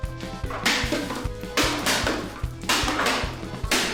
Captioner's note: cans clatter